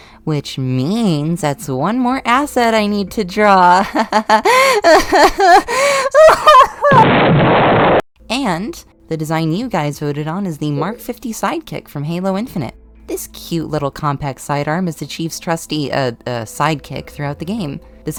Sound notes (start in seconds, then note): 3.9 laughter turns to sobbing; 6.9 deltarune_explosion.wav